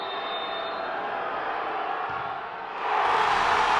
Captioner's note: whistle whistling; crowd cheering